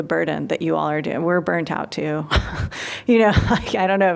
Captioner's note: laughter